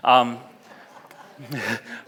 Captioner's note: laughs; audience laughs